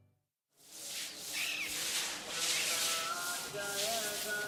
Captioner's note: broom swooshing